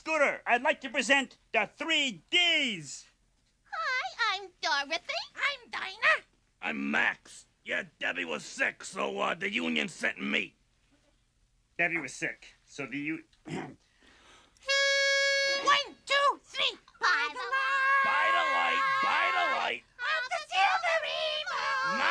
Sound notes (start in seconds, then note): 13.4 clears throat; 14.6 harmonica sounding